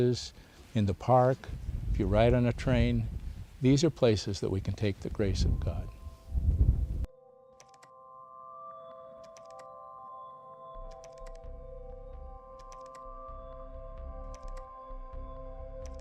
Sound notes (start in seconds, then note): 8.6 gentle music plays; 11.7 keyboard clacking